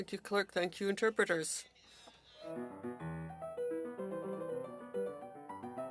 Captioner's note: speaking French